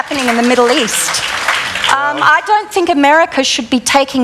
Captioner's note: applause